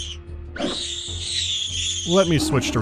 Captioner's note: ear-piercing shriek x3; ear-piercing shriek x4